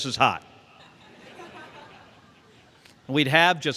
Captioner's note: laughter